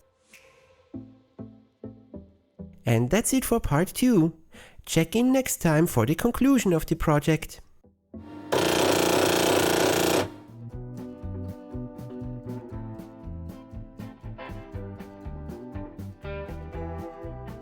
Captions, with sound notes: And that's it for part two! Check in next time for the conclusion of the project! [Printer Noises]